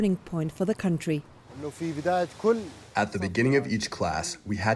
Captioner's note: through translator